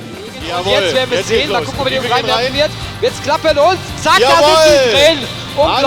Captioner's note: commentators speaking in German